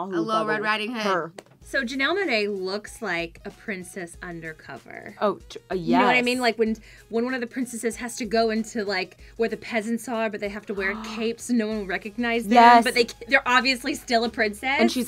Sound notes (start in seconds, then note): 10.6 gasps